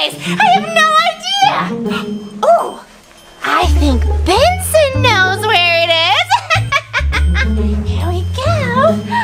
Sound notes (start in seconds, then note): 6.1 laughs